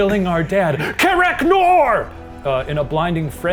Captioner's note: foreign language